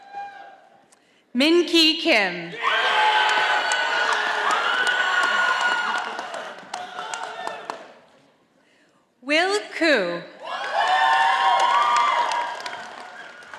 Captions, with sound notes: Minky Kim. (audience applauding) Will Koo. (audience applauding)